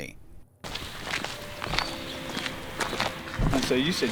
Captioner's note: birds chirping; footsteps crunching